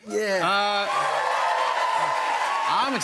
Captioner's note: cheers and applause